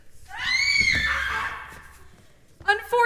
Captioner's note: scream